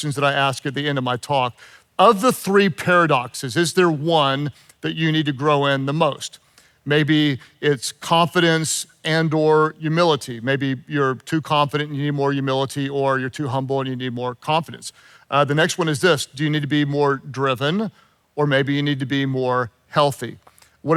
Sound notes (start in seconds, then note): none